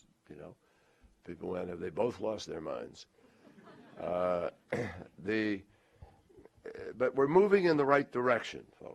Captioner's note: laughter